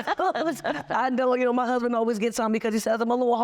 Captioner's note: laughing